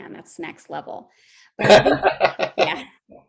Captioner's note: laughing